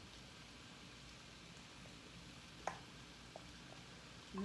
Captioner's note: pan sizzling